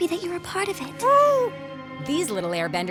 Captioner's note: cooing